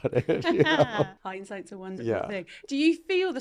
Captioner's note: laughing